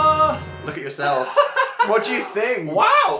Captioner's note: laughs